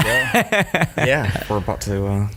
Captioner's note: laughter